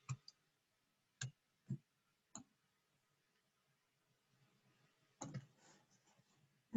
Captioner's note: silence